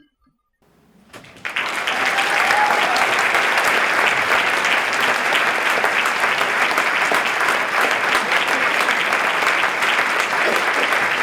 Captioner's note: applause